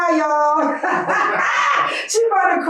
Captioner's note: Crank and Skye laughing